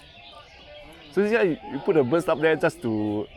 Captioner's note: chats in the background